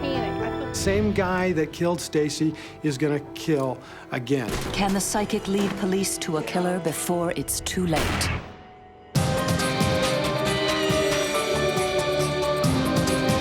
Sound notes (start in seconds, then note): 7.9 gun firing; 9.1 dynamic melodic music